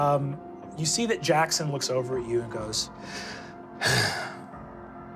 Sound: sighs

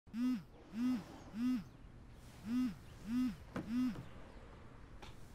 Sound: phone vibrating

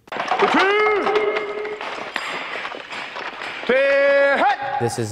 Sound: rifles clattering

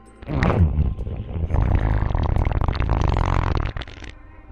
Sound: eerie growling

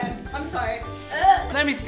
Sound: gagging

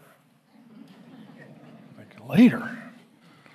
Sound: congregation laughing

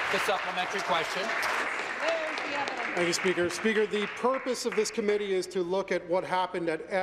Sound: applause

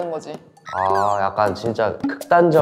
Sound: astonished

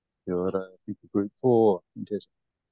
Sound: speaks in te reo Māori

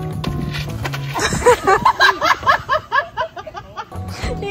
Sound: all laughing

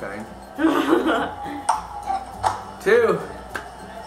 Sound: laughing

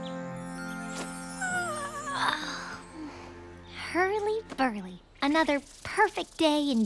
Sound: yawning

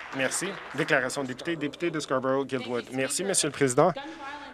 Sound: applause

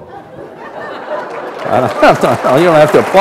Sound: laughter; applause

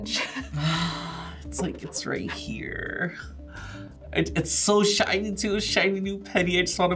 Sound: sighs

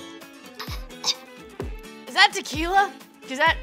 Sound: gags

